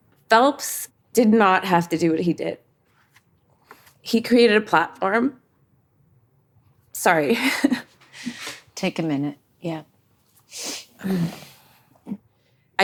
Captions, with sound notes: Phelps did not have to do what he did. He created a platform. Sorry (chuckles). - Take a minute. Yeah.